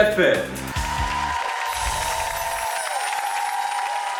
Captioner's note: crowd cheering